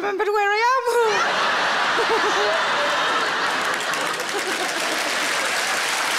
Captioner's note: audience laughing and applauding